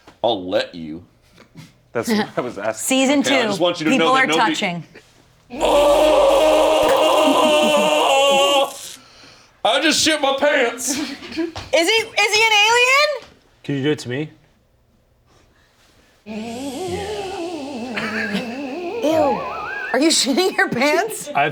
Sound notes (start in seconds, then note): 5.8 creepy other-worldly music; 5.8 shouts; 17.7 creepy other-worldly music